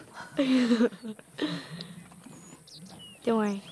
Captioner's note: Laughs